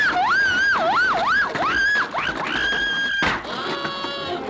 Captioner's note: Olive screaming